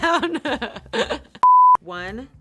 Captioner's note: laughs; beep